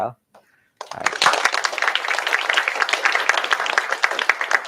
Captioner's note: applause